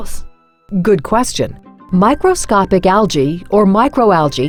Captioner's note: voiceover